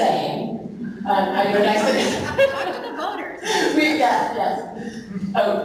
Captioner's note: laughing